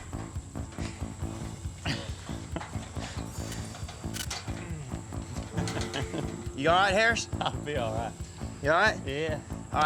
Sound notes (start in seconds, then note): 1.9 chuckling